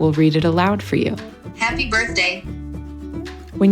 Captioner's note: computerized Voice